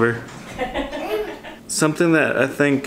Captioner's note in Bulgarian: се смее